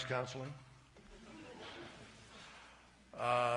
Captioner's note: laughter